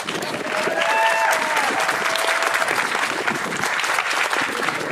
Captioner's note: audience applauding